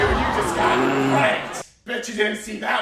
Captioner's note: grumbles